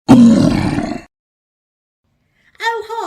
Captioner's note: troll Growling